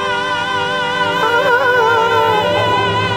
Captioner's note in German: Er summt mit